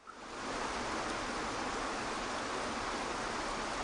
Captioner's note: water cascading